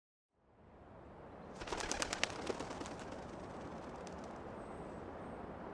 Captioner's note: bird wings flapping